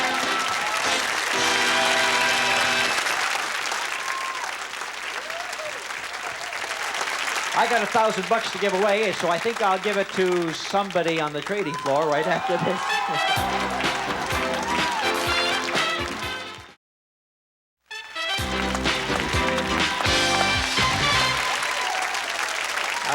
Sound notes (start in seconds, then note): 0.0 theme music playing; 11.7 laughs; 12.7 theme music playing; 18.0 theme music playing